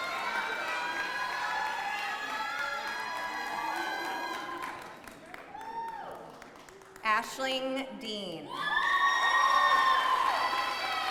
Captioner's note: applause